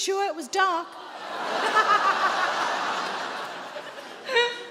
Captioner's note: audience laughing